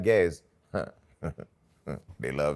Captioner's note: chuckles